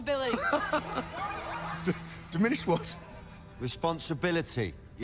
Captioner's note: laughs